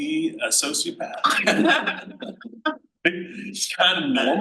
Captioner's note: panel laughs